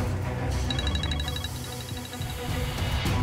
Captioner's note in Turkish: Telefon çalıyor